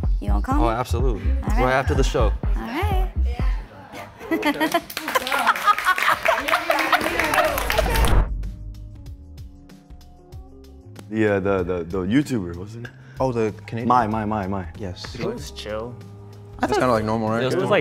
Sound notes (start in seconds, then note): 4.4 cast clapping; 5.1 laughs